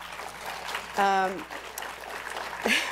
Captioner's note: applause